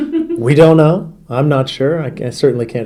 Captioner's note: interviewer laughs